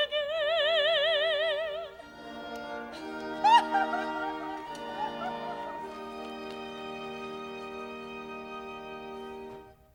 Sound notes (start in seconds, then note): 2.9 Lisa weeps